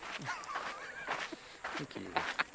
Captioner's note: Sean laughs